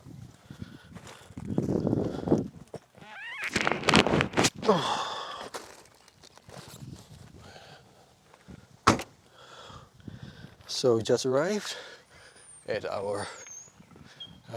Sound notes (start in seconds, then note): 1.1 wind blowing; 4.9 grunting